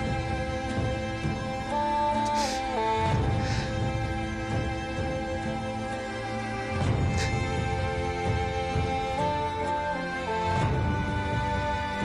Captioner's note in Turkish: Ağlama Sesi